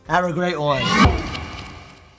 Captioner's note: logo whooshing